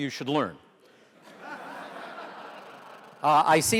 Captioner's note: audience laughter